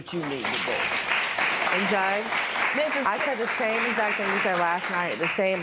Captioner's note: applause